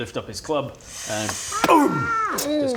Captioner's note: boom!